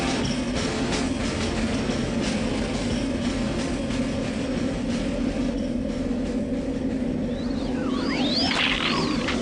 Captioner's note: low voice drone, wind blowing steadily